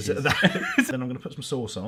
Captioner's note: both laughing